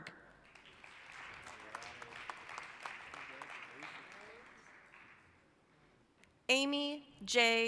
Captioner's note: applause